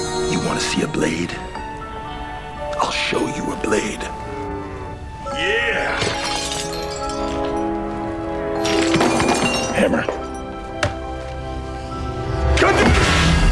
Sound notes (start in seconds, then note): 5.8 rattling